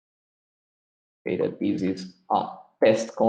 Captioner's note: murmurs